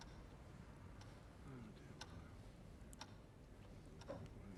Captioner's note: clock ticking